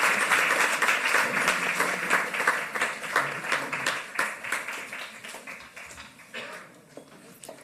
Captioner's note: applause